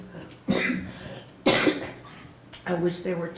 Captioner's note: coughing